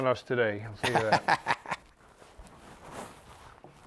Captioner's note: laughing